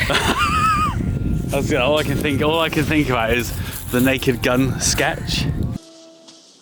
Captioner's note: laughing